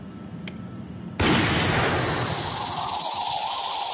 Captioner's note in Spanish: Disparo